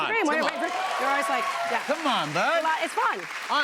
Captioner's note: cheers and applause